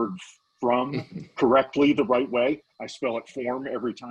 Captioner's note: chukling